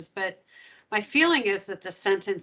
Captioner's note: none